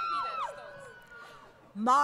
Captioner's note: crowd Cheering